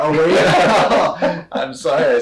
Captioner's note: both laugh